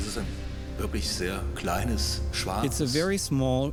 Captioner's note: speaking in German; voice-over